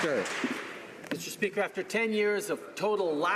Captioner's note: some Applause